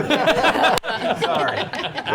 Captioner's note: laughter